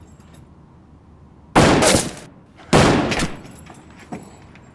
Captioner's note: gunshots